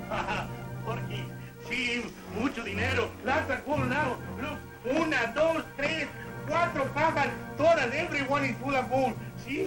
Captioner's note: laughs; non-english speech